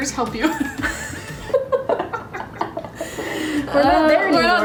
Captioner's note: laughing